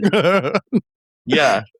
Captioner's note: laughing